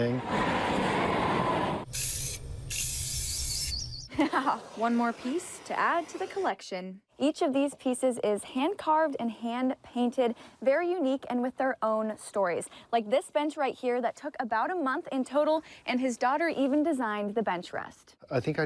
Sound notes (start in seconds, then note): 0.2 flame whooshing; 1.8 spray paint hissing